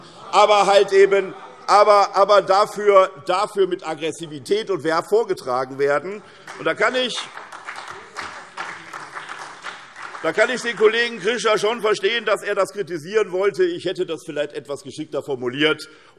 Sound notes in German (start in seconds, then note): 6.2 Beifall SPD und BÜNDNIS 90/DIE GRÜNEN